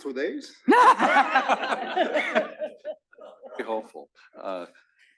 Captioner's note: laugh